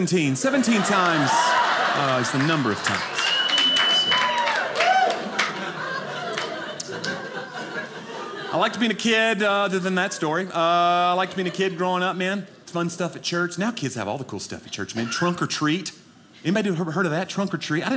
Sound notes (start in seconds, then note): 5.1 audience laughing